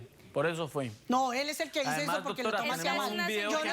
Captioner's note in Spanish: Hablan al unísono